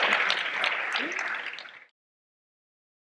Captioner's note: audience applause